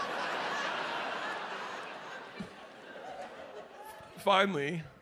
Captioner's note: audience laughs